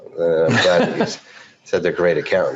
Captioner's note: laughs